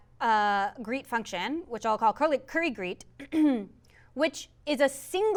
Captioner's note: cough